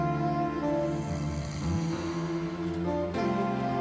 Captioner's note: snoring